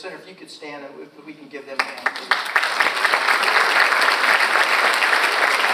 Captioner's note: audience applauds